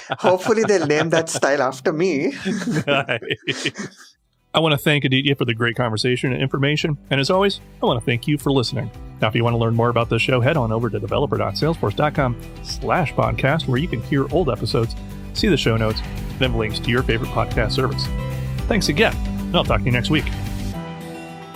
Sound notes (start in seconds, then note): 0.0 both laugh; 2.1 laughs